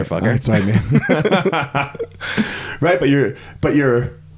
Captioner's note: both laughing